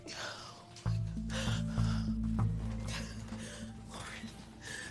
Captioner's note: breathing heavily; exhaling deeply